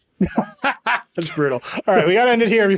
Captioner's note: laughing